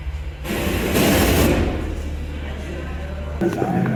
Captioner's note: radio statics